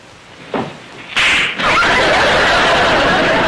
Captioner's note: audience laughter